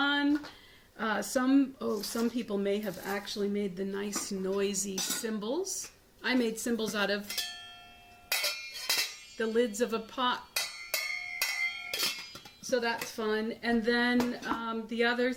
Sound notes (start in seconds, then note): 8.1 crashing lids